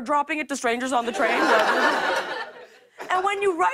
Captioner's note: laughter